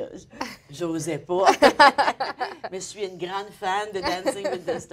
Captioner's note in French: rires